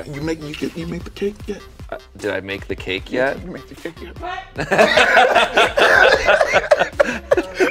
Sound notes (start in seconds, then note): 4.6 both laughing